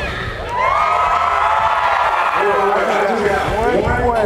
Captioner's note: crowd cheering